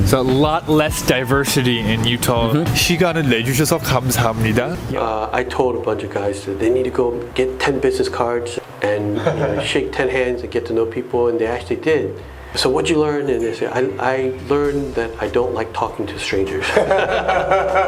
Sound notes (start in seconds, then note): 5.4 Korean